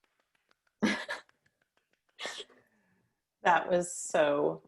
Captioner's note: laughing